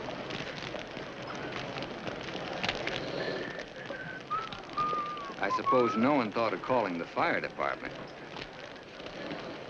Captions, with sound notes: (fire crackling) (Judge Crenshaw whistles) I suppose no one thought of calling the fire department?